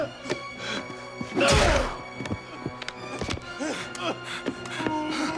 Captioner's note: tense music continues; kick thudding